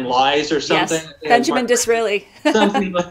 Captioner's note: laughs